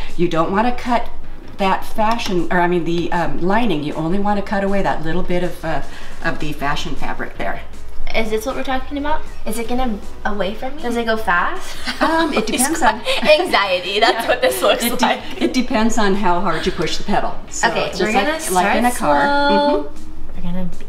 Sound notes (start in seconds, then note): 11.6 laughing